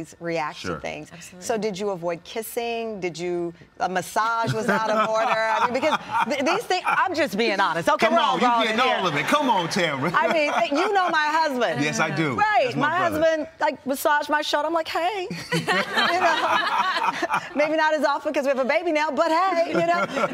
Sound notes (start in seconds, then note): 4.4 both laugh; 15.5 all laugh